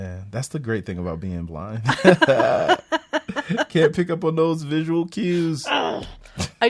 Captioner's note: laughs